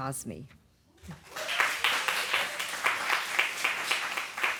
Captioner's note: cheering, applause